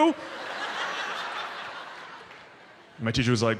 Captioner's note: audience laughs